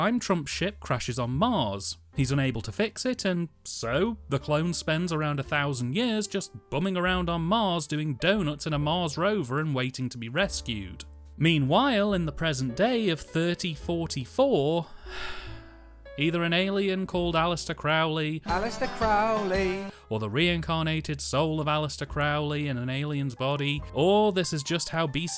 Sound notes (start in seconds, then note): 14.9 sigh